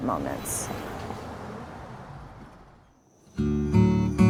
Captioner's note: car whooshing; gentle music